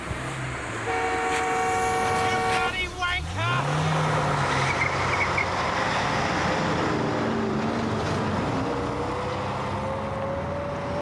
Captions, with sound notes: (car horn blares) You bloody wanker! (engine roars)